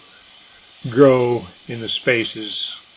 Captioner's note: machine noise